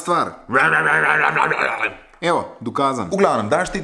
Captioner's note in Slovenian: Oponaša renčanje